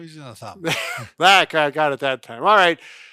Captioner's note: both laugh